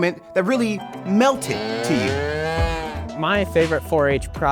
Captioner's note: cow mooing